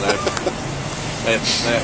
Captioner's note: laughs